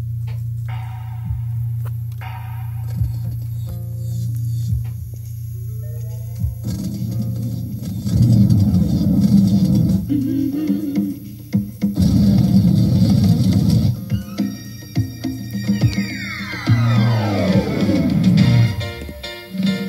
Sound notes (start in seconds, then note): 2.8 music starts, electricity sparking; 6.6 static electricity buzzing; 9.7 singing; 11.8 static electricity buzzing